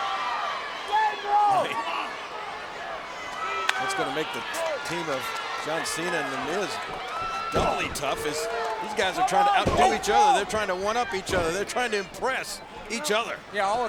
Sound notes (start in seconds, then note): 2.1 crowd cheering; 3.6 hands clapping; 3.6 laughs